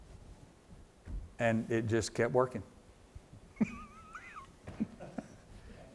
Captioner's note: laughs